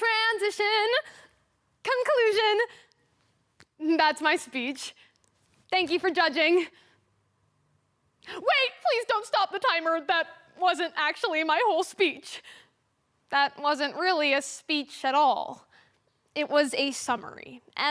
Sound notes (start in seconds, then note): 7.0 silence; 12.7 quick inhale